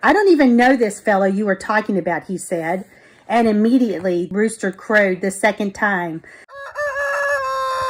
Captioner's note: rooster crowing